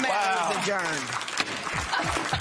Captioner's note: applause